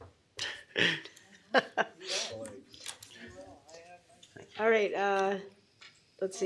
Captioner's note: laughter